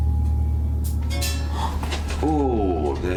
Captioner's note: jingling